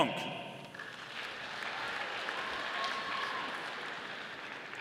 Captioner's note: audience applauding